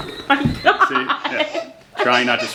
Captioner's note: laughing